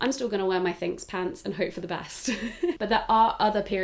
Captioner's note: laughs